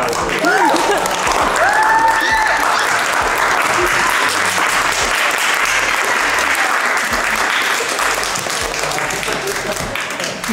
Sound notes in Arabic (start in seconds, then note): 0.9 كريستال يضحك; 1.8 الضيوف يهتفون ويصفقون